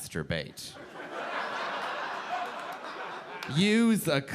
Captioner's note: audience laughing